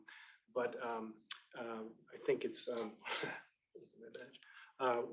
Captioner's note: chuckles